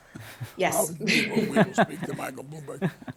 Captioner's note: laughs